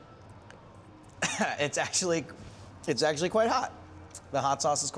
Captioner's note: coughs